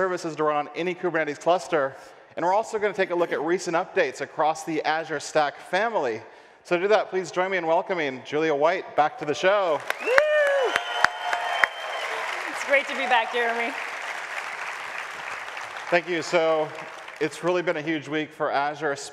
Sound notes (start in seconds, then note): 9.7 audience applauds